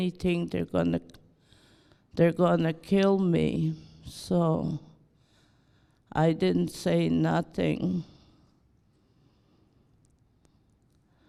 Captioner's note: sigh